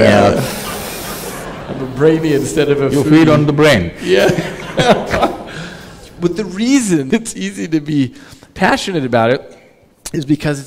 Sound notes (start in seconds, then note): 0.3 laughter; 4.0 laughs; 4.0 laughter